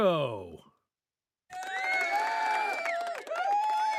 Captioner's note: audience cheering